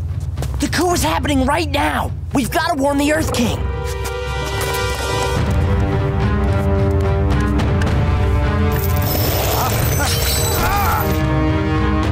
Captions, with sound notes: The coup is happening right now. We've gotta warn the Earth King. [clanking, groaning]